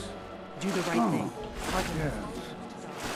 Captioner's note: splash splash